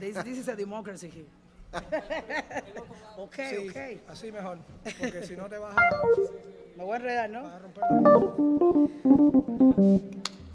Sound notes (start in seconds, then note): 1.8 laughing; 4.1 band member speaking in Spanish; 7.8 gentle music